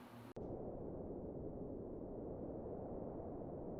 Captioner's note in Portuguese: Som ambiente